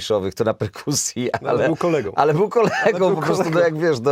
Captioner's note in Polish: śmiech